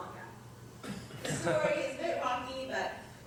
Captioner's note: laugh